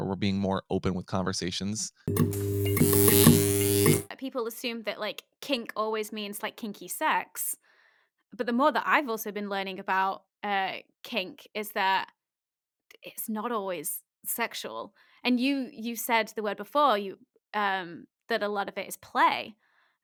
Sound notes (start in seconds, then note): 2.0 buzzing